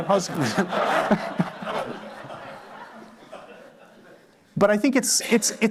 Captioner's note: laughter